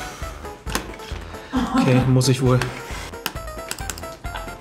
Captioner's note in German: lacht